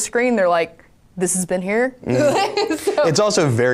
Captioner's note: laughing